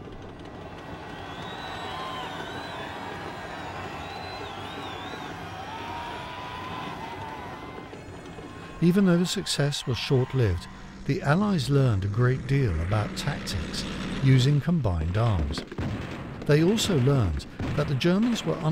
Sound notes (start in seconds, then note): 3.4 men cheering